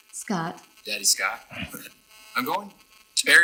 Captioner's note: laughs